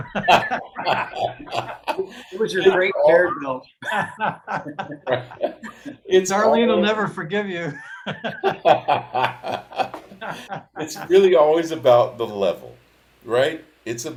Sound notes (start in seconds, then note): 0.3 participants laugh; 3.9 participants laugh; 7.4 laughs